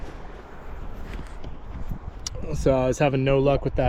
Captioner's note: wind blowing